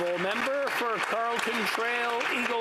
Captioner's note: applause